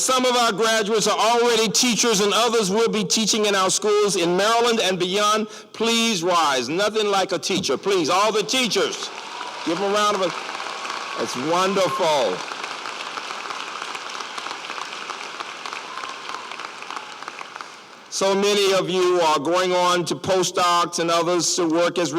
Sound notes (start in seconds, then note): 12.2 applause